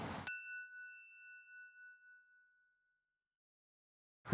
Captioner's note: chiming tone